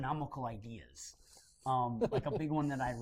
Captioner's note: laughter